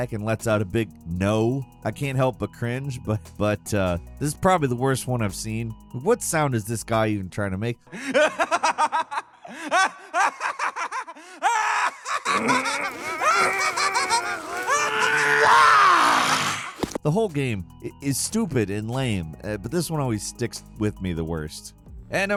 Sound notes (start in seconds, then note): 8.0 cackles; 11.4 groans